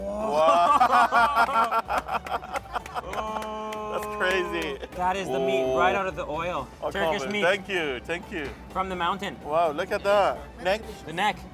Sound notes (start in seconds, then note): 1.3 clapping